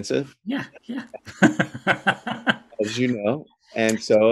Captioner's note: both laugh